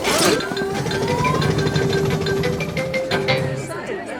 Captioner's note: all murmuring